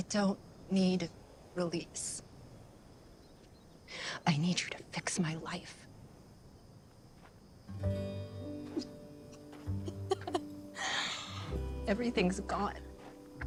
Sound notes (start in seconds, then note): 8.6 Clive sobbing